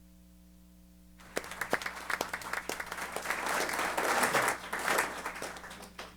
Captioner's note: applause